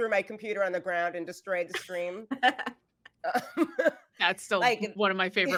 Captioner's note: actors giggling